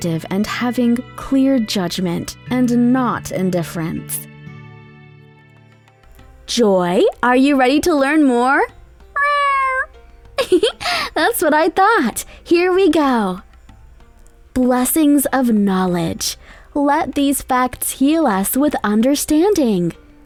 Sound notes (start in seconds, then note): 9.1 Joy meows; 10.4 giggles